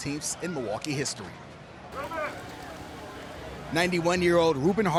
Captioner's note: festive street ambience; people chattering